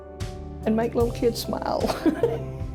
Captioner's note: laughs